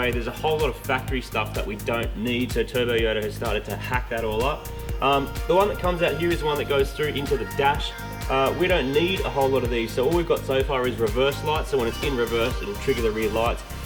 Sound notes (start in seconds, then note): none